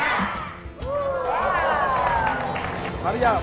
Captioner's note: applause and Cheering